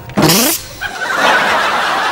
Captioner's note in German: Summen